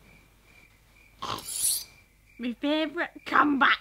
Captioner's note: snorting sound